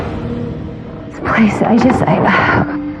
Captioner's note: exhxhalalese